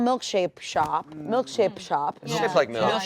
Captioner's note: collective yeahs